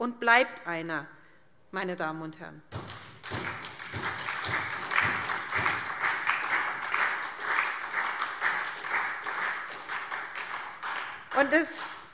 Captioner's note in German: Beifall SPD